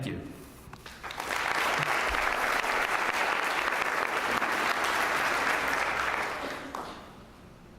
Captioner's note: applause